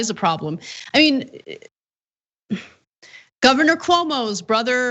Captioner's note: laugh